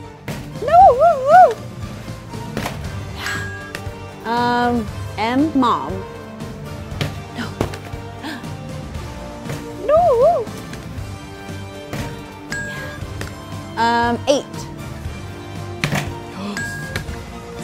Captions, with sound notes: No! Oh, oh! Um, M, mom. No. No! [DINGING] Yeah. Eight. Yes.